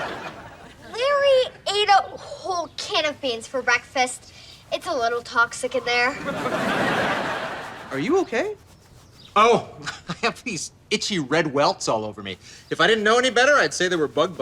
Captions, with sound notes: - Larry ate a whole can of beans for breakfast, it's a little toxic in there. (laughs) - Are you okay? - Oh I have these itchy red welts all over me. If i didn't know any better I'd say they were bug bites.